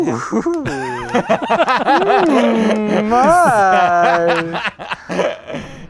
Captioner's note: laughter